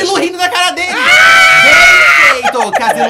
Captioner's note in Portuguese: gritos